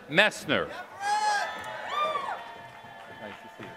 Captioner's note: applause